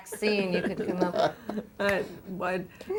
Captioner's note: laughter